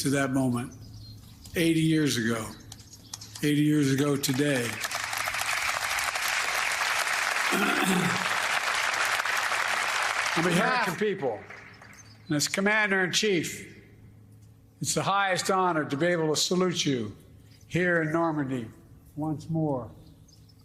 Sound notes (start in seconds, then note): 12.1 applause